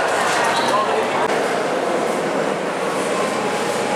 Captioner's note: people talking